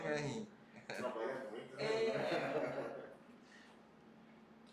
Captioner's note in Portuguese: risos